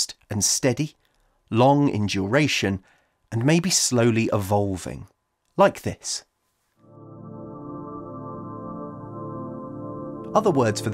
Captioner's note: soft Drone Sound